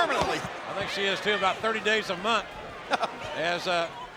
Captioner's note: King chuckles